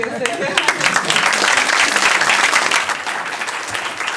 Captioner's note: applause